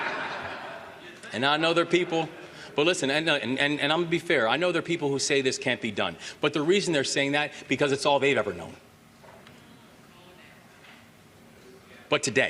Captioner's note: laughter